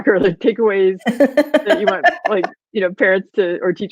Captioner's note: laughing